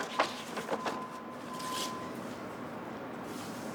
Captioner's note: rustling sounds